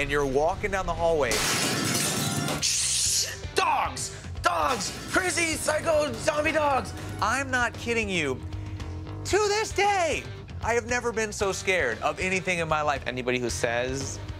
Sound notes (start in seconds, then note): 2.8 glass shatters; 3.7 mimics glass shattering